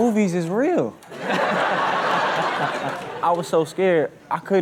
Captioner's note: all laugh